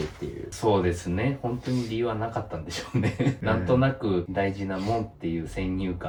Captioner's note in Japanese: 笑い